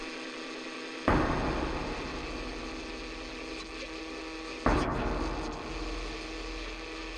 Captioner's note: bangs and other loud noise proceed